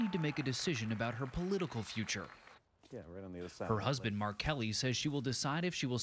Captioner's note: applause